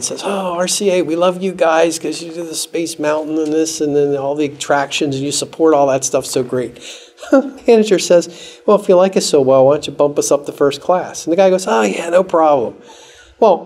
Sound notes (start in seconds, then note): 7.2 laughs